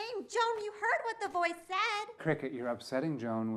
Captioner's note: none